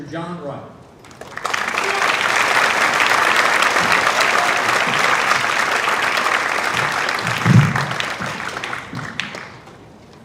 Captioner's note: applause